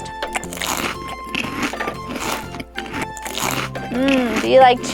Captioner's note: munching noises